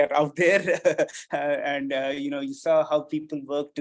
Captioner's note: chuckles